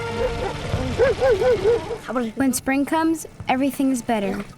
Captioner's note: barks